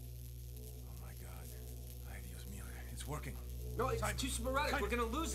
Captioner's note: electrical Hum